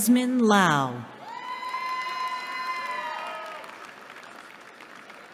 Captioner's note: cheering